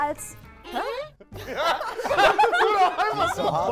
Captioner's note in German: Gelächter